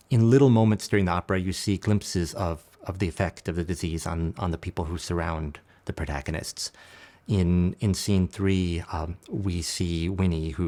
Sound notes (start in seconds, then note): none